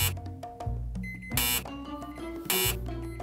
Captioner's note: buzzing